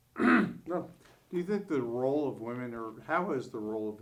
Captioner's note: clears throat